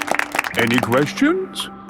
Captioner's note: all clapping